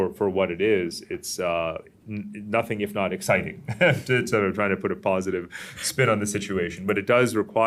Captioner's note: laughs